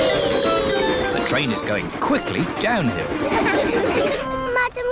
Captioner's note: laughter